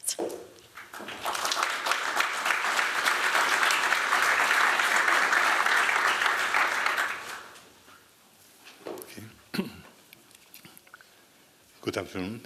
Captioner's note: applause